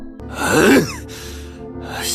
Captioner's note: sigh